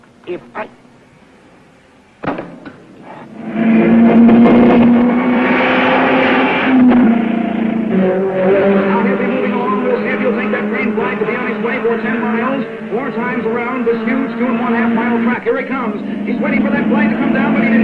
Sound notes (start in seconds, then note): 2.2 hammer banging; 3.7 car revving